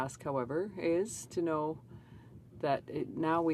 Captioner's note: speaking French